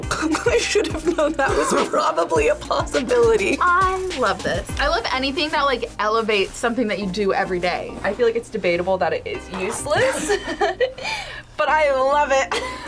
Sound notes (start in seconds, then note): 0.0 both gasp; 9.9 laughs